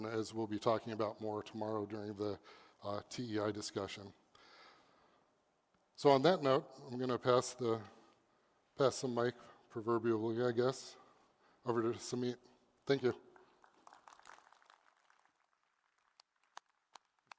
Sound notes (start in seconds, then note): 13.4 applause